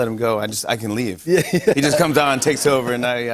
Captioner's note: laughter